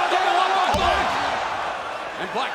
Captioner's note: mat thumping